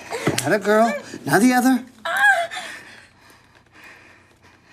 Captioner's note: Holly cries